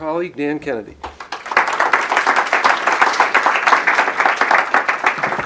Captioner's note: applause